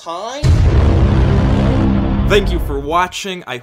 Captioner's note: boom